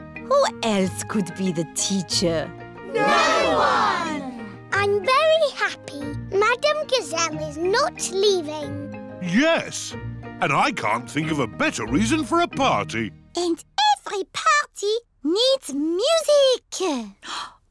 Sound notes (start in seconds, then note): none